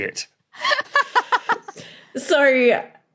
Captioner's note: laughs heartily